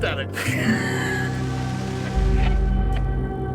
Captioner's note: announcer laughs; unsettling music